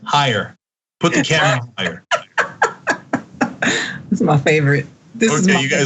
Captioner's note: laugh